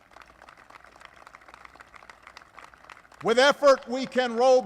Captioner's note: applause